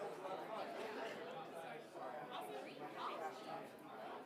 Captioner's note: people chattering